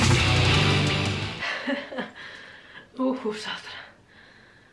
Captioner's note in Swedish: skrattar och pustar